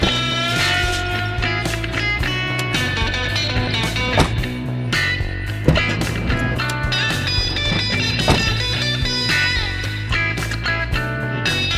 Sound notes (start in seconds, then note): 0.3 uptempo blues music continues; 4.0 car door slams shut; 5.6 car door clatters open; 7.4 car door slams shut